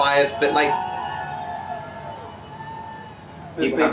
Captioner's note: people cheering